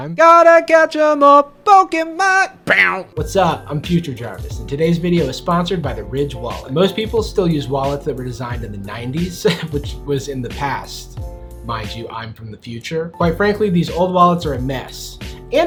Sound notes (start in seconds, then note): 2.6 imitating guitar riff; 9.4 laughs